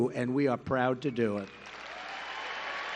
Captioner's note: applause